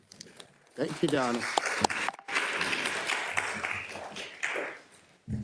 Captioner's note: attendees applauding